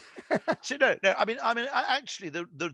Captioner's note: laughing